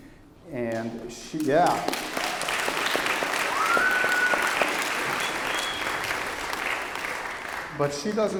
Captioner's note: applause